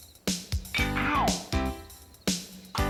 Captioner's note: ted groans